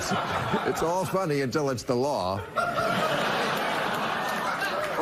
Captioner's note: laughter